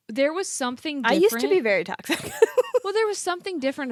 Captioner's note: laughs